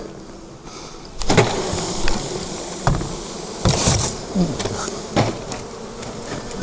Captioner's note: scary bee sound